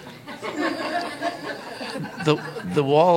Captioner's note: laughter